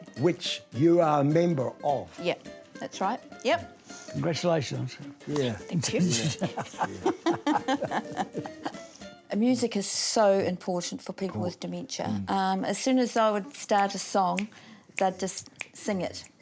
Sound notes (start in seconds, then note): 5.8 both laugh